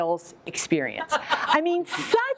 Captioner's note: laughter